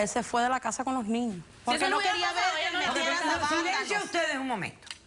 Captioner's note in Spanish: Hablan al unísono